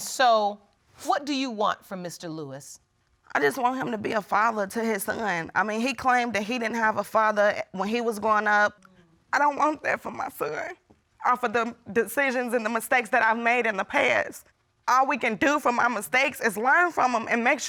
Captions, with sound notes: And so, what do you want from Mr. Lewis? I just want him to be a father to his son. I mean, he claimed that he didn't have a father when he was growing up. [tearfully] I don't want that for my son, all for the decisions and the mistakes that I've made in the past. All we can do from my mistakes is learn from them